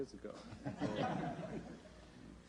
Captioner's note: laughter